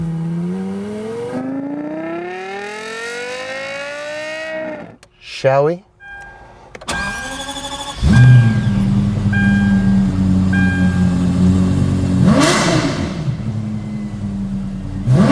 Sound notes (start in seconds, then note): 0.0 car revving; 7.1 car starting; 12.5 car revving